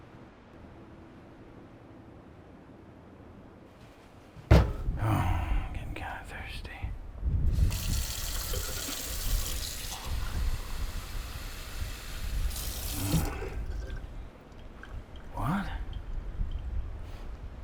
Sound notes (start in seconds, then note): 4.4 bottle thuds; 7.6 water splashing